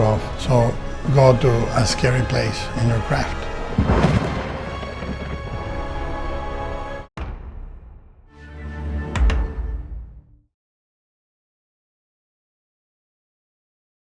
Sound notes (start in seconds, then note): 3.6 dramatic music; 3.6 lightening cracking